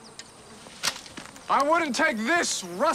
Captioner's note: flies buzzing